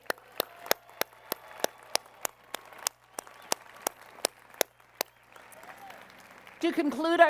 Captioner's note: applause